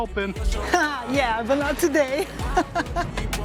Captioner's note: laughs